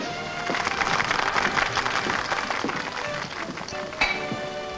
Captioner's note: patrons clap